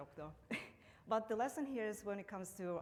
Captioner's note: laughs